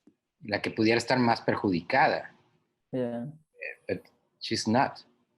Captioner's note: speaks in foreign language